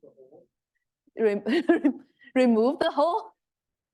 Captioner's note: chuckles